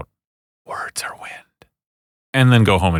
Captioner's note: whispred